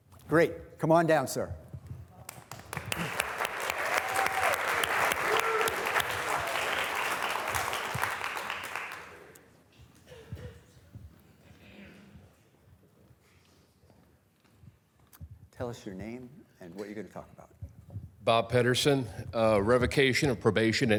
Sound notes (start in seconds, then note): 2.3 students applauding